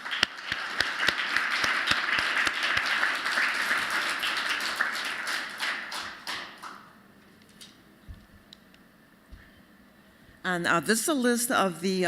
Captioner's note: applause